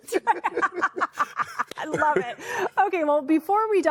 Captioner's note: laughter